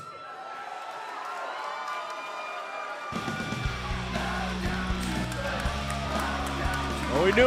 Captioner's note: cheers & applause